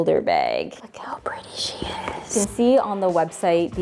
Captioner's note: whispers